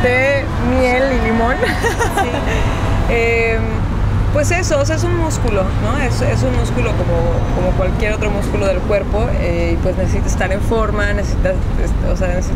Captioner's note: laughs